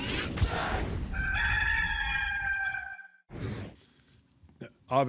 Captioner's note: cock crows